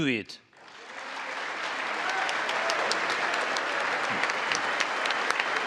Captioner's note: congress applauding